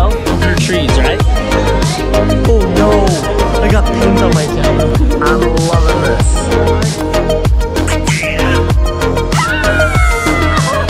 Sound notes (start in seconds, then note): 9.3 baby squeal